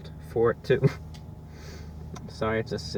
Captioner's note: laughs